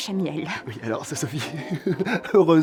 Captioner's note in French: rire gêné